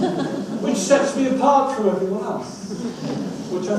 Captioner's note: audience laughs